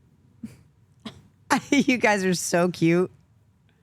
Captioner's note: laughs